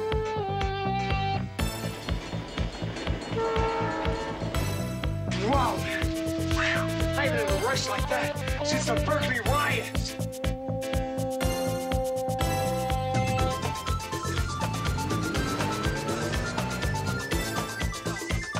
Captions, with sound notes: (bells ringing) (train horn blaring) - Wow, I haven't had a rush like that since the Berkeley riots. (upbeat music) (motorcycle rumbling)